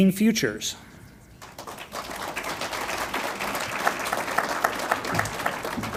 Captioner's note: audience applauds